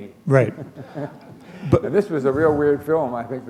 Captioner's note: chuckle